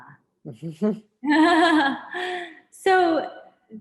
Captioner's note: chuckles